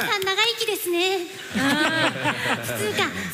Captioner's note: laughter